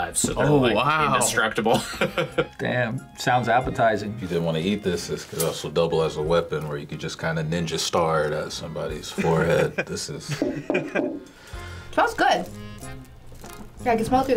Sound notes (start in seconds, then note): 1.7 laughs; 9.2 FBE laughs; 10.8 loud thunks